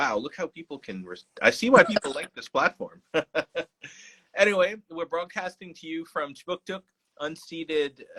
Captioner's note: laughing